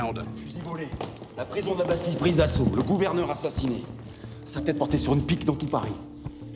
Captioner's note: tense music; men speaking in French